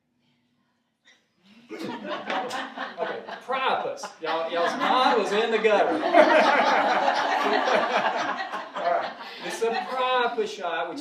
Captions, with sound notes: (audience laughing) Priapus, y'all's mind was in the gutter. (audience laughing) Alright, it's a priapus shot